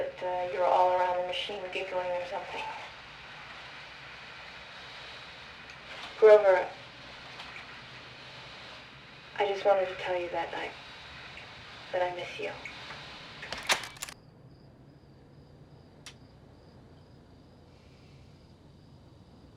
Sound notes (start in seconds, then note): 13.4 click